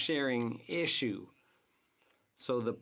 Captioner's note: speaking French